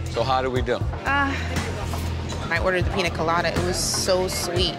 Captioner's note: sighs